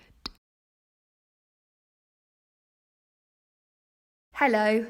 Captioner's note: silence